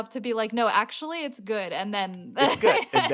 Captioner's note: laughter